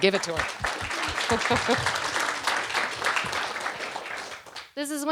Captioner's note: audience clapping